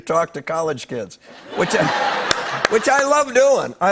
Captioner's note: laughter